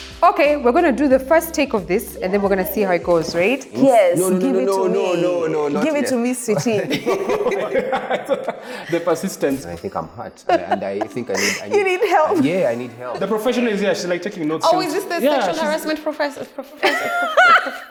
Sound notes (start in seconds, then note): 7.3 laughs